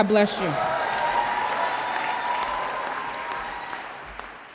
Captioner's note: audience applause